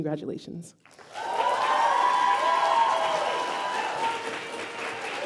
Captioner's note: applause